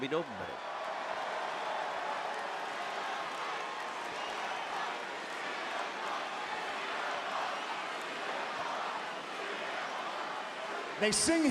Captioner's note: applause